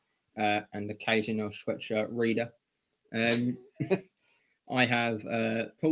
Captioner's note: laughter